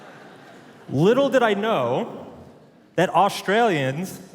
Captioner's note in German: Publikum lacht